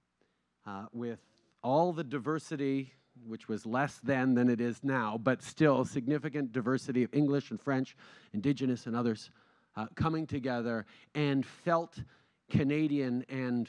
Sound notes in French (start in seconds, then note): none